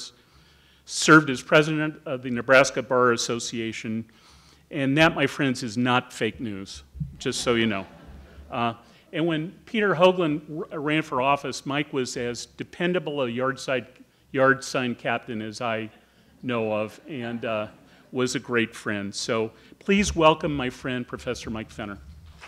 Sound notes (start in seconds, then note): 7.2 audience chuckling; 22.2 audience applauding